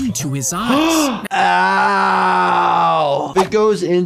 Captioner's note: gasps